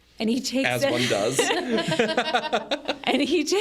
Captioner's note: group laughs